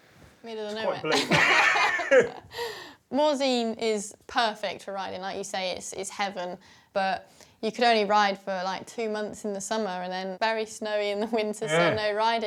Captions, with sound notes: -Middle of nowhere? -Quite bleak. [BOTH LAUGH] Morzine is perfect for riding, like you say, it's heaven, but you could only ride for like two months in the summer and then very snowy in the winter so no riding.